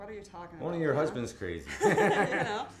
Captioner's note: laughs